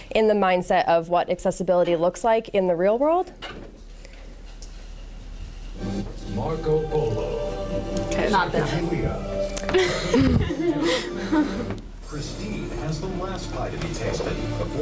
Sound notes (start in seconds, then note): 9.6 laughter